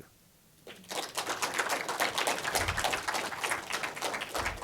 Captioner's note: applause